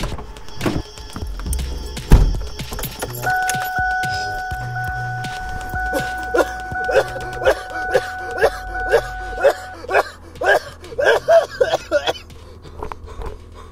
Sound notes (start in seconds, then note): 3.1 car beeping; 5.9 coughing Intensifies